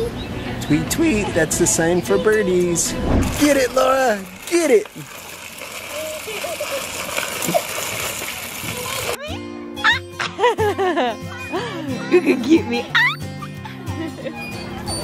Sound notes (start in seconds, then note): 5.9 kids laughing; 9.2 light upbeat music